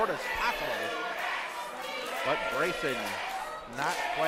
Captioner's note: crowd